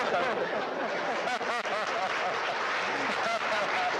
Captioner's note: audience laughing